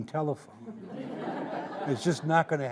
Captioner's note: audience laughing